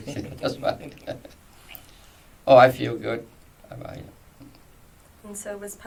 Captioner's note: laughs